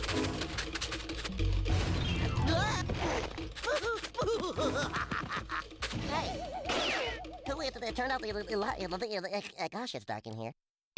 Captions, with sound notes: [Porky grunts] [laughing] [Porky stuttering] WHO TURNED OUT THE LI-- GOSH, IT'S DARK IN HERE.